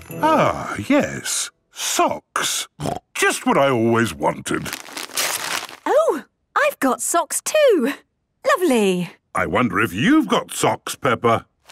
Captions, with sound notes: - Ah, yes. Socks! Just what I always wanted! - (tearing) - Oh! I've got socks too. Lovely! - I wonder if you've got socks, Peppa.